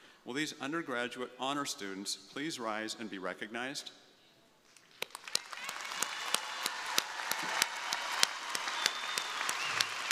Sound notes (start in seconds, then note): 4.8 crowd applauding; 5.2 crowd cheering